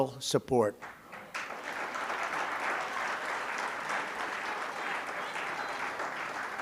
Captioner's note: applause